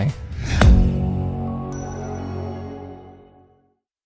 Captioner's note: rocket whooshes